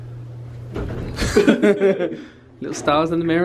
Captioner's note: both laugh